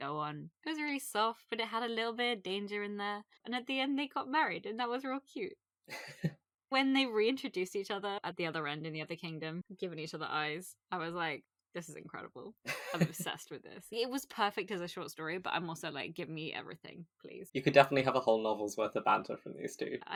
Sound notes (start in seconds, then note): 5.9 laughs